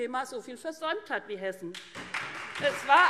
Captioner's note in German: Beifall SPD und vereinzelt Freie Demokraten